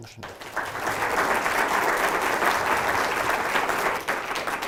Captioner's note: applauding